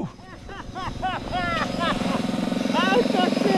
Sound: laughing

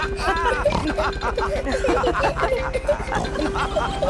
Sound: all laughing and snorting

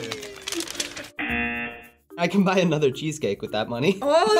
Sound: buzzer

